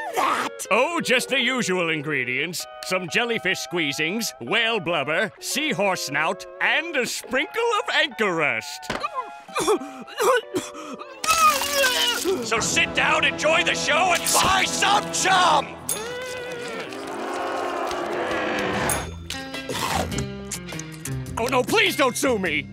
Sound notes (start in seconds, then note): 9.5 vomiting; 15.8 groaning